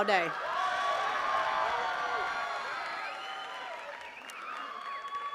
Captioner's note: attendees cheering and clapping